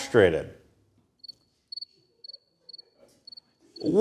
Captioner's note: crickets